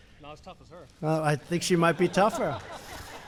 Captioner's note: laughter